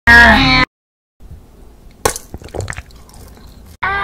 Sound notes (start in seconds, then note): 2.0 crunch; 2.3 swallow